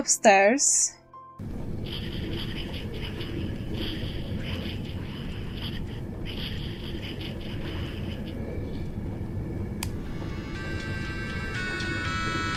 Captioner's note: ghost whispers; radio